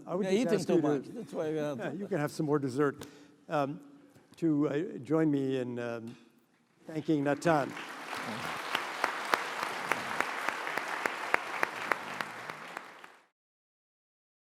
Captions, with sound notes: -: You're eating too much, that's why. -: You can have some more desert. To join me in thanking Natan. (applause)